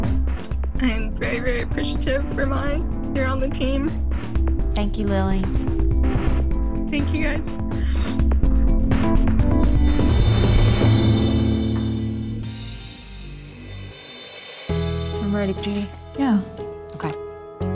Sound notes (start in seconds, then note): 6.3 dramatic music; 8.4 sniffle; 9.2 dramatic music; 13.2 sad music